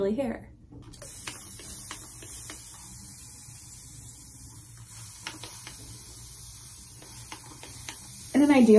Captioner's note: water spraying sounds